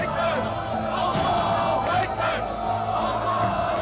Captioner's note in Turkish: Hep bir ağızdan